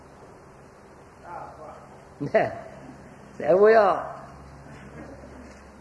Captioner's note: laughs